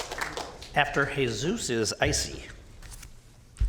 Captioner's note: applause